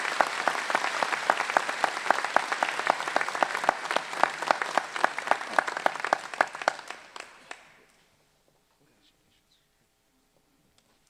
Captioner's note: applause